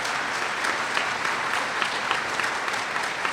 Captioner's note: applause